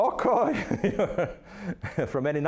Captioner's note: laughing